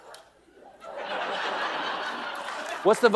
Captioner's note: laughter